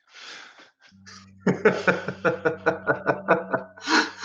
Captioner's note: laughs